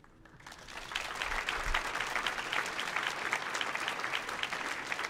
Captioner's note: audience applauds